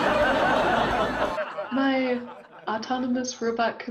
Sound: audience laughing

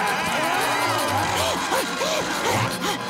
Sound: groaning

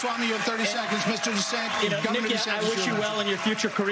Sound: cheers

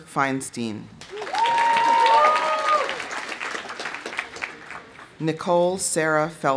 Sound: audience applauding; audience cheering

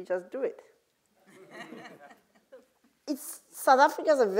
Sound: laugh

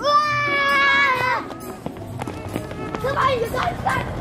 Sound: yelling

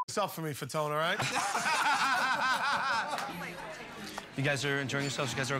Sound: laughing

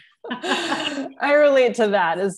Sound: laughter

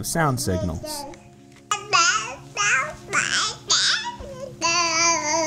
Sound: babbling

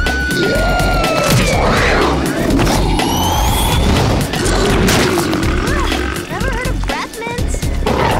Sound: screams

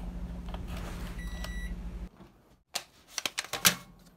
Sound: beeping

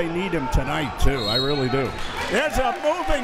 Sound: whistle tweeting

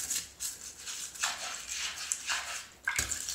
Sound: wet scraping

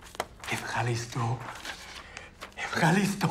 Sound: speaking in Greek

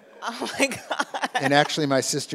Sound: laughing; audience laughs

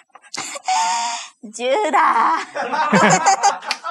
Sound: laughs

